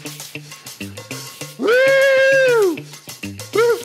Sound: yelling

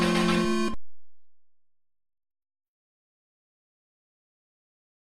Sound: silence

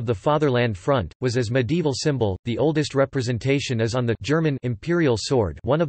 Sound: German

